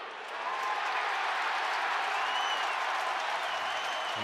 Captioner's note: cheering